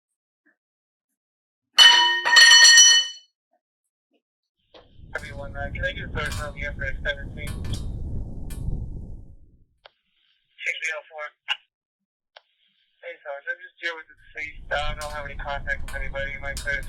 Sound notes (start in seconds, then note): 0.2 sound of metal dropping; 4.0 police radio chatter